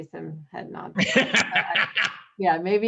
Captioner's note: laughter